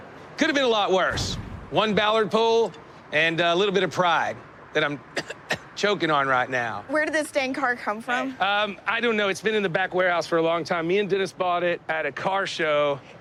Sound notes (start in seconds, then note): 5.1 imitates coughing